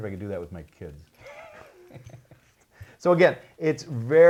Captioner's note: both laughing